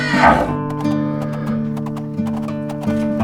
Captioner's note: cows moo and strut